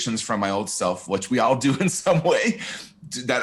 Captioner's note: chuckles